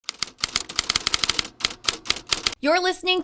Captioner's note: typing